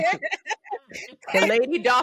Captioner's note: laughing